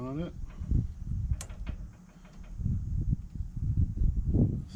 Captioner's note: clicking